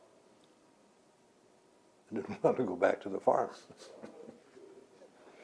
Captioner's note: laughs